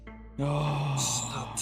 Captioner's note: Katarip Sighs